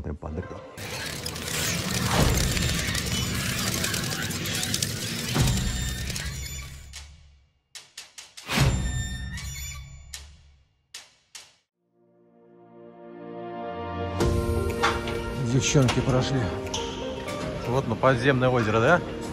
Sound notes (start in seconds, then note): 0.8 ominous sounds